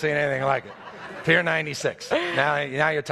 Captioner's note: audience laughs